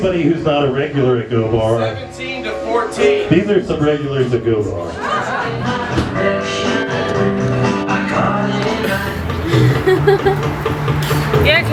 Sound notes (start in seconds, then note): 5.4 laughing; 5.4 upbeat music